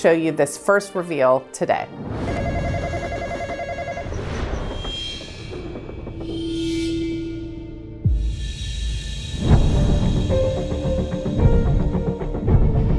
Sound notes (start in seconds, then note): 2.3 phone rings; 9.5 intense ambient music